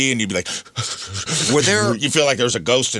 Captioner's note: gasping